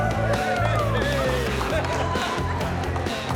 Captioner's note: cheering